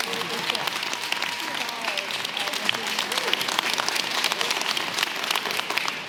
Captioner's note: audience clapping and cheering